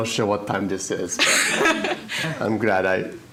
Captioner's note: laughs